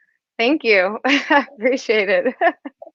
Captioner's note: laughs